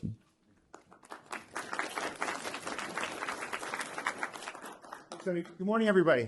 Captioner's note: applause